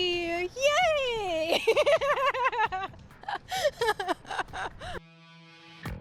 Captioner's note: laughter